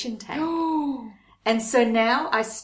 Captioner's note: gasps